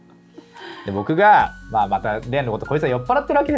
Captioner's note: laughs